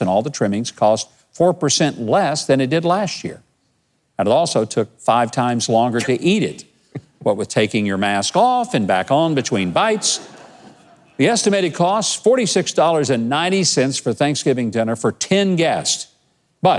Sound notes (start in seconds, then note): 6.8 chuckles